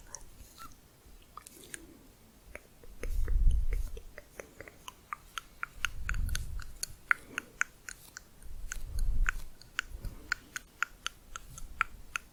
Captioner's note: varied clicking